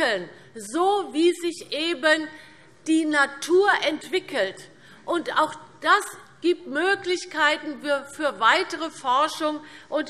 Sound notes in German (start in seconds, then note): none